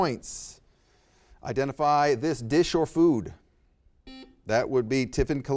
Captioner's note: buzzer beeps